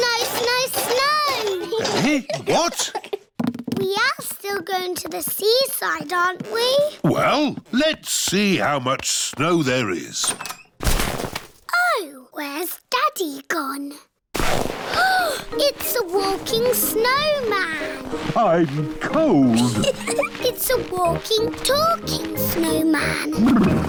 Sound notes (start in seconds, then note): 15.0 gasps; 19.4 laughs